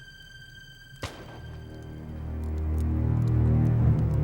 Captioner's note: fire crackles